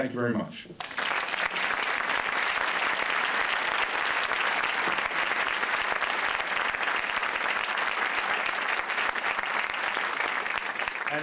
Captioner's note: applause